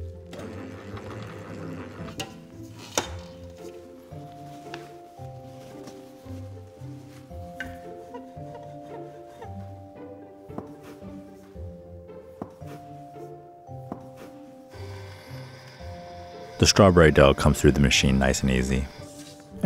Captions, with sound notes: [mixer whirring] [lively music] [rolling pin squeaking] [knife chopping] [machine whirring] The strawberry dough comes through the machine nice and easy.